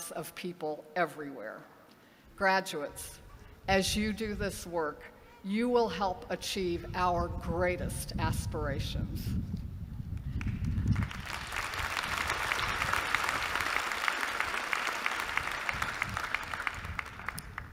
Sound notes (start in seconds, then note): 10.2 applause